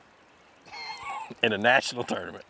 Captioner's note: laughter